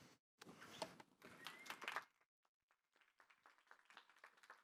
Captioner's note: applause